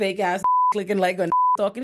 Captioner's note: beep